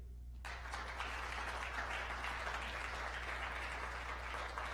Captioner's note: applause